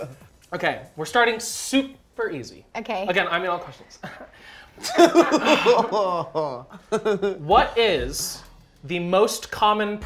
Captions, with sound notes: - Okay. We're starting super easy. - Okay. - Again, I made all the questions. (laughter) What is the most common prize